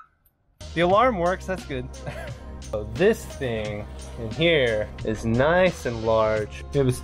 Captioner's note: laughs